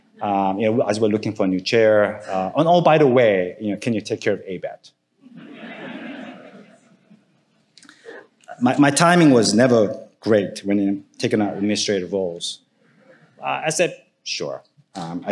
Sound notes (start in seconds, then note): 5.3 audience laughing